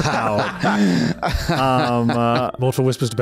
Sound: laughs

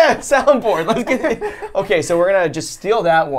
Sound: laughs

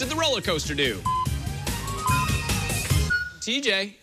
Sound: electronic beeping

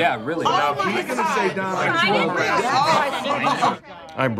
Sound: overlapping shouting ensues

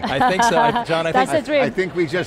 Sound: laughs

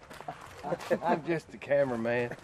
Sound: laughter

